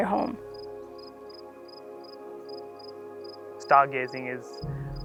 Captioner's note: crickets Chirping